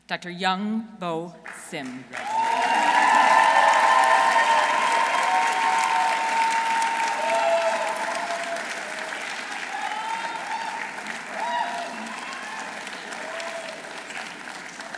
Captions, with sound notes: Dr. Young Bo Sim. -(audience cheering) -(audience applauding)